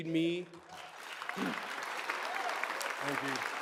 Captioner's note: audience applause